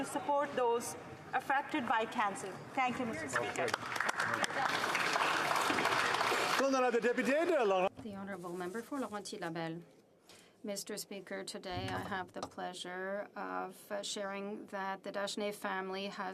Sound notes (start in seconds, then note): 8.3 applause